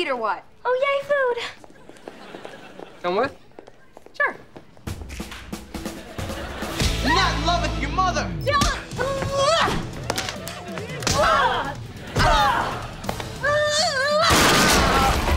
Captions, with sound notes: Oh, yay, food. Come with? Sure. I'm not in love with your mother. [grunting] [grunting] [thudding]